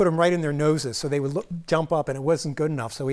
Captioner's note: none